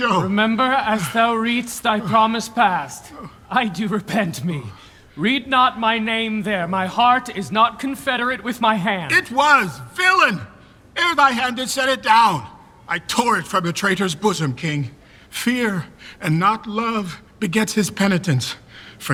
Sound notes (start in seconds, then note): none